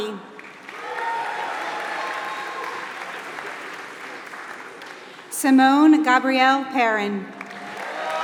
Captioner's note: applause; applause